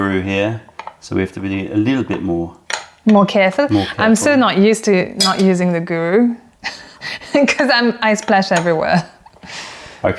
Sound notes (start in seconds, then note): 7.2 laughter